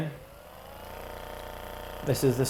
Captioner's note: massage gun whirring